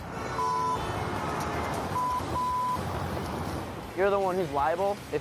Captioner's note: car horn honks, bleeping